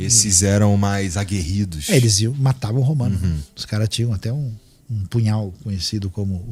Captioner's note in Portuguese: limpando a garganta